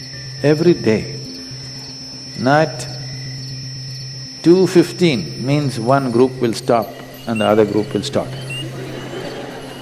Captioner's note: laughter